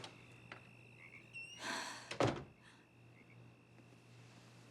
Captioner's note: sighs; door closes